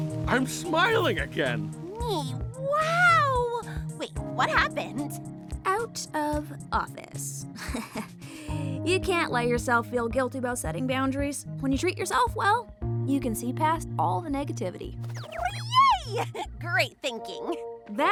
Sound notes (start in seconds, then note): 7.5 chuckles